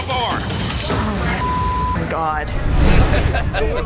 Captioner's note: beep